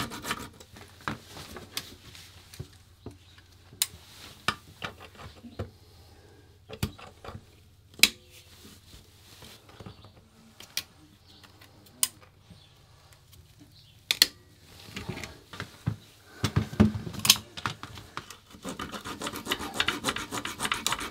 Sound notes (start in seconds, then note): 6.9 crunching; 17.7 scraping